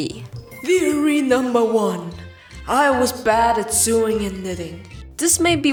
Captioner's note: echoey voice